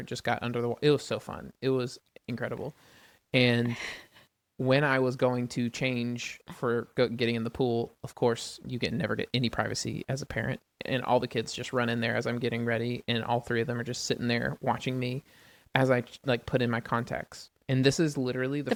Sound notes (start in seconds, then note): 3.9 laughs